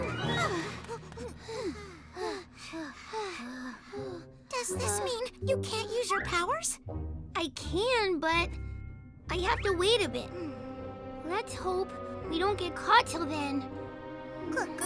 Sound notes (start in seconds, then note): 1.1 all breathing heavily